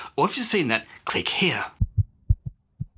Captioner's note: heartbeat